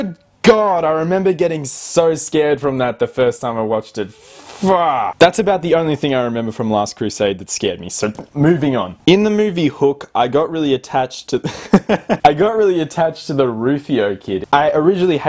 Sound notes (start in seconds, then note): 11.4 laughing